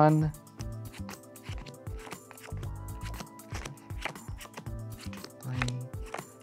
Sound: cards slapping on table

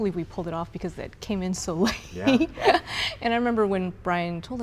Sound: laughing

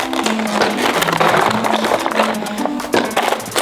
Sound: shuffling

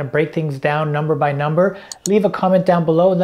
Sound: clicking

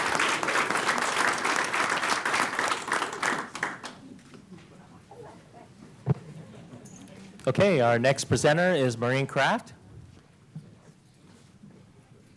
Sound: applause

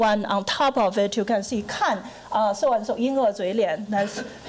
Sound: foreign language

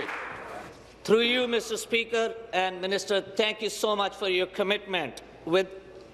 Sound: applause

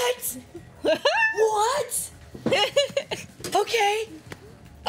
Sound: laughs

